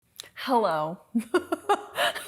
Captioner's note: laughing